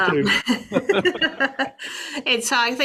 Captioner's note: laugh